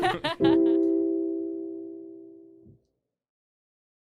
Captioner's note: chuckles